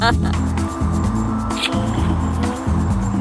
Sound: laughing; smooching; laughing

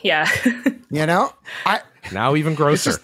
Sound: laughs

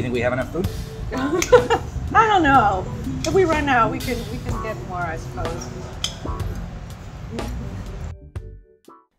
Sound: laughs

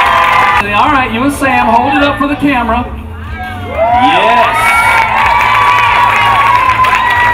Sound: audience cheers and claps

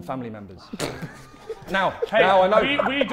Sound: Sidemen laughing

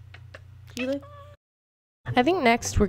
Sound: meows

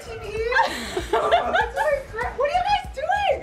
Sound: laughing

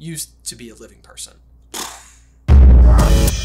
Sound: brain explodey noise; outro Theme Music

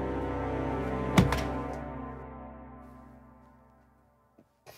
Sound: towel thuds

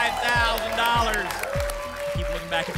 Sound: applause and cheering

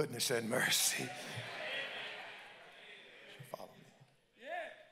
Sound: congregants call out

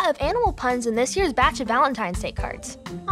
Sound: none

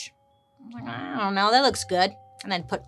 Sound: murmurs

